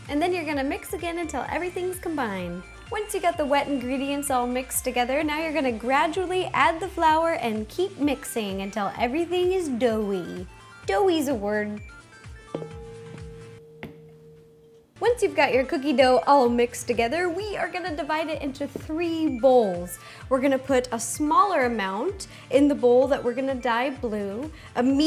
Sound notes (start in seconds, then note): 12.4 smaller bowl clangs against the larger bowl